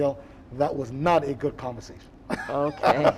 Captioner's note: chuckling